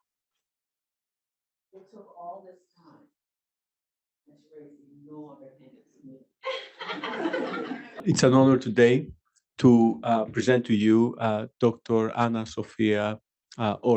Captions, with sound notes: It took all this time. (speaks faintly) (audience laughing) - It's an honor today to present to you Dr. Anna Sofia Ore.